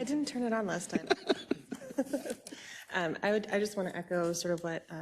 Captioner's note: laugh